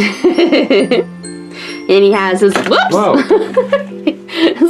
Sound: laughs

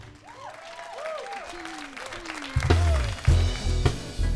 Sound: applause

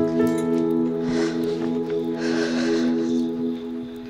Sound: exhales

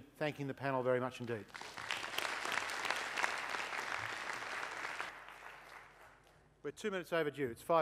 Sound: applause

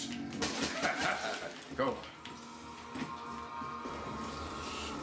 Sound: D Man laughing

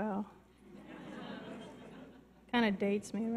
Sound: audience laughs

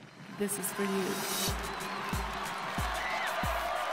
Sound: cheers

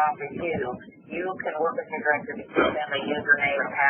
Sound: coughing

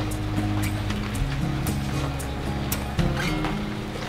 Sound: gentle rain

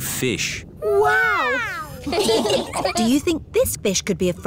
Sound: laughing

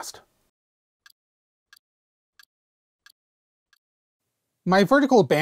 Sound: ticking sound

